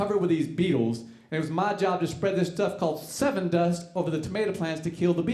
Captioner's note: none